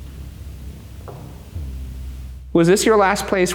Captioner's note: floor creaks